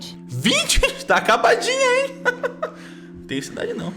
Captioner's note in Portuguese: risadinha